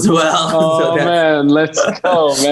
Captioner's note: chuckles